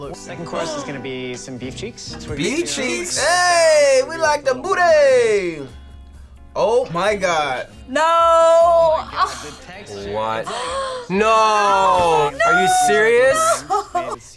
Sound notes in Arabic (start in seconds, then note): 8.2 آهات; 10.4 لاهث